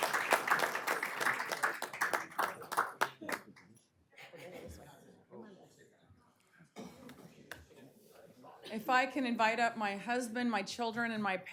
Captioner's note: applause